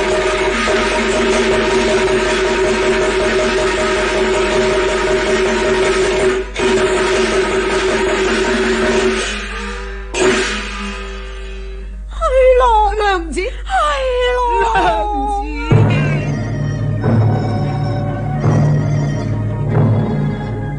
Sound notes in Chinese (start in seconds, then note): 12.0 花旦哭白